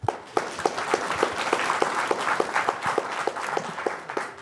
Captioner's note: applause